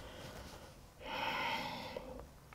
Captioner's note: deep breathing